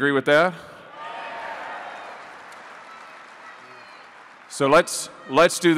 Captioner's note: applause